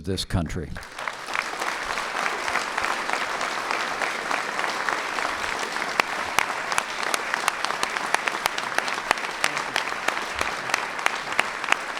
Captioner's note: applause